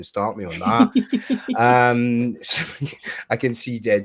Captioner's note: laughs